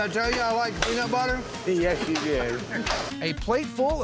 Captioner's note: laughs